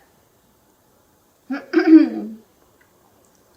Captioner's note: clears throat